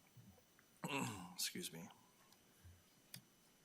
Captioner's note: clears throat